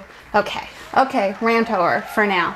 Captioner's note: crowd applauding